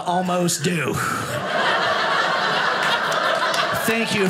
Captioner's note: audience laughing